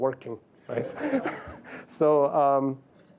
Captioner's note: laughter